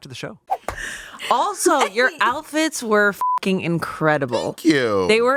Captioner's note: beep